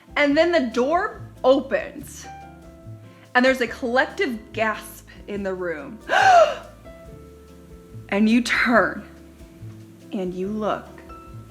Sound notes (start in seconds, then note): 2.3 bouncy, mellow music; 6.1 gasps